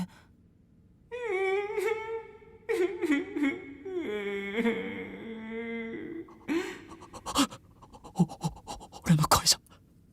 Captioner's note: sobbing